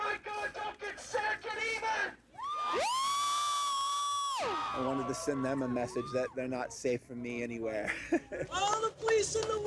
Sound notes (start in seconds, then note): 2.4 crowd cheering; 7.8 chuckles